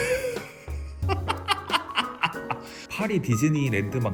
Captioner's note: laughter